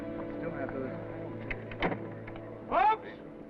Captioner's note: crowd chattering